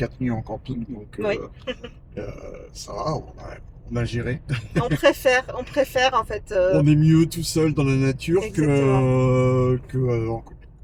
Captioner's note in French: rires